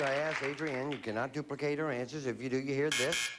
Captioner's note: buzz